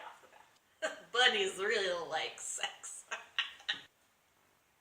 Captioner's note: drunkenly